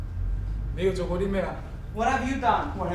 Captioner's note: speaking in a foreign language